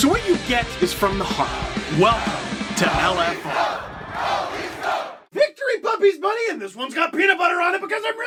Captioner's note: Go Leafs Go chants